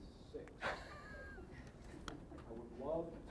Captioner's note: laughing